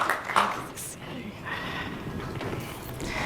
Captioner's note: applause